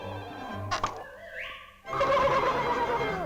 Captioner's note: pop